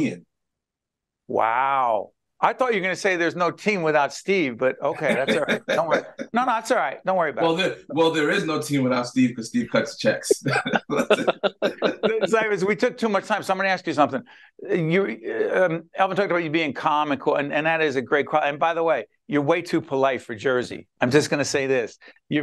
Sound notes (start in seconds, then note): 9.6 laughing